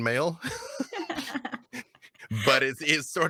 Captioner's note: laughing